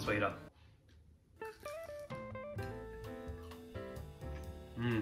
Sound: bar crunching

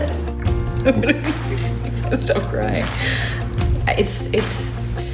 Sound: chuckling

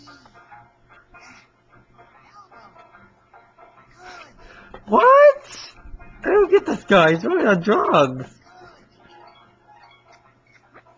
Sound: throws up

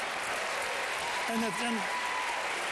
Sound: applause

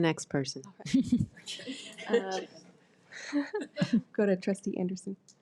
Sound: board members chuckle

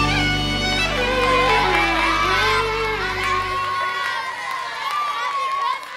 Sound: people cheering and applauding

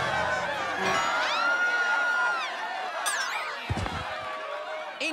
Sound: scream and then faint

